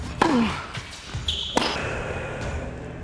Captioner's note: grunts; exhales; ball thumps